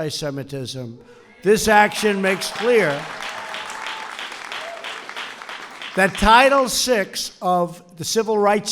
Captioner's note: applause